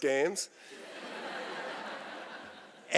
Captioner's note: laughter